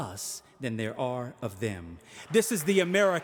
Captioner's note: audience applauding